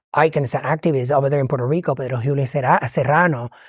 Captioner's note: speaking foreign language